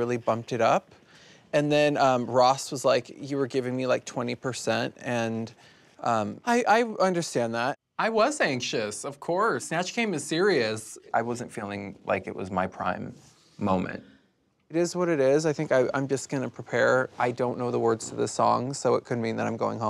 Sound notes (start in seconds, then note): none